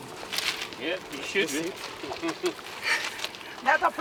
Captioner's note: overlapping chatter